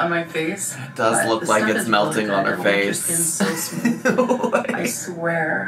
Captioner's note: laughs